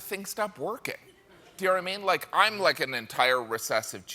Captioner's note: laughter